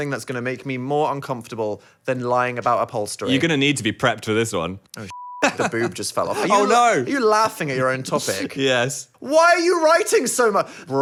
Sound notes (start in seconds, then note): 5.0 beep